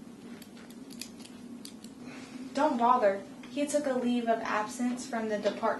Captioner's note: clicking of metal